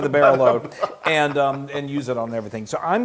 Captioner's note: laugh